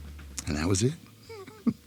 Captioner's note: chuckles